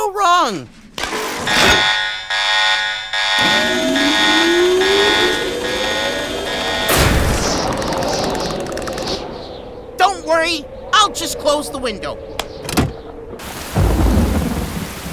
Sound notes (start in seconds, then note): 0.2 security alarm buzzes loudly; 3.1 window whirs open; 6.2 wind gusts, kids teeth chatter; 12.0 rain pours and thunder rumbles